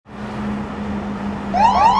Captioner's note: engine revs; police sirens wail; upbeat music